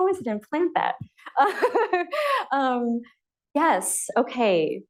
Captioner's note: laughs